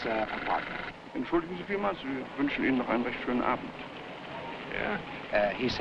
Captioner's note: officer speaking foreign language